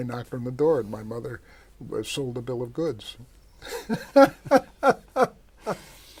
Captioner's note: laughs